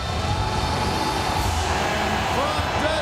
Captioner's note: crowd cheering